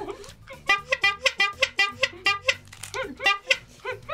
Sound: honking

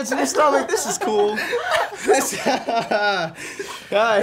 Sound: laughter

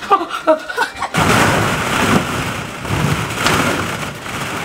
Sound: ball pit rustling

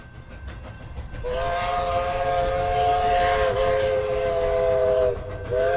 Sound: train whistle blowing

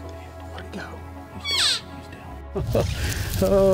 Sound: elk cries

